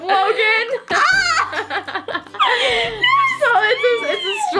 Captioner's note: laughing